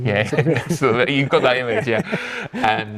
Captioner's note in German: lacht